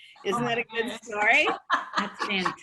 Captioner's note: laughter